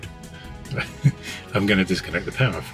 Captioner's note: laughs